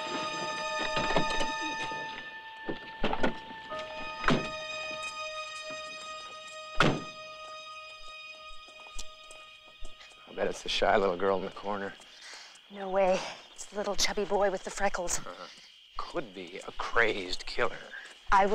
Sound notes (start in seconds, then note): 4.3 car doors closing